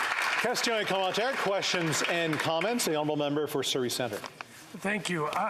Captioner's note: some Applause